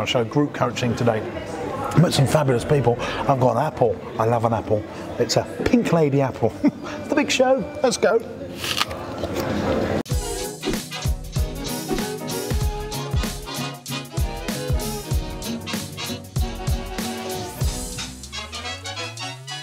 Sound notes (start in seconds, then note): 8.5 crunches apple; 10.3 upbeat music